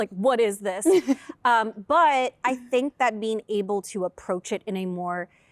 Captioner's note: laughter